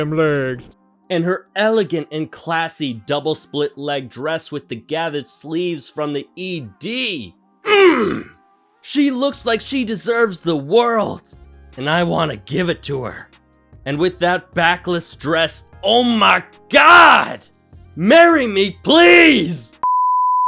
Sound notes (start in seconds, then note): 7.6 grunt in approval